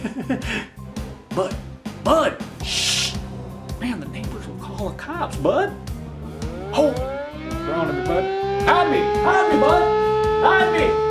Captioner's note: siren sound